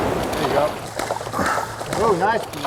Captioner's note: splashing